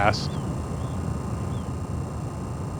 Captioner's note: birds chirping